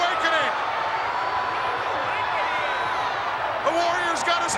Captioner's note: crowd cheering